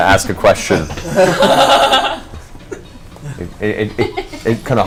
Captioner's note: all laugh